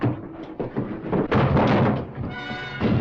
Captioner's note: thud